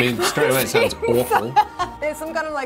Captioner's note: laughs